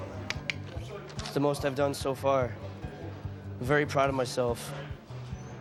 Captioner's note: clicks tongue